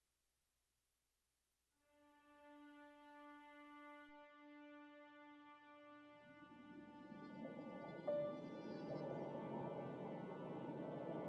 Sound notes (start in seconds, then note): 1.9 tranquil orchestral music; 7.0 wind blowing